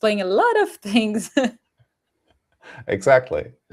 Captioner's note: laughs